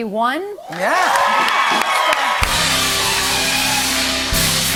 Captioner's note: cheers and applause